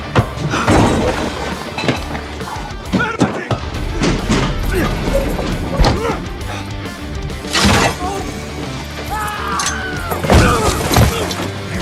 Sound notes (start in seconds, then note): 3.1 guard 1 speaking Italian; 4.5 grunting; 5.8 gasps; 7.8 guard grunts; 9.0 screaming